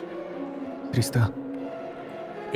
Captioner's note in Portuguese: sussurra